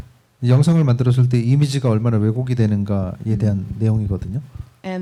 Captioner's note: speaking korean